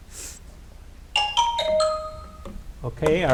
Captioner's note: chimes chiming